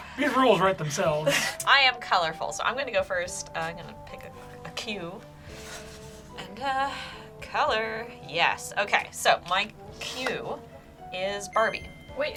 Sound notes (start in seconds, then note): 0.0 group laughs; 6.6 sighs; 11.5 word twinkles